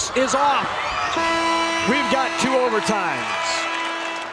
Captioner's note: horn blares